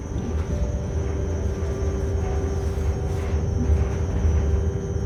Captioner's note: mechanism whirring